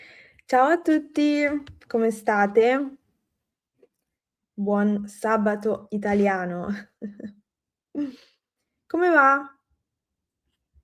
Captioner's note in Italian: risate